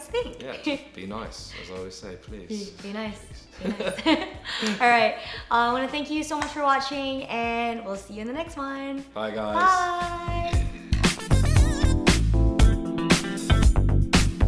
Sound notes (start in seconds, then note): 3.6 laughing; 9.3 upbeat electronic music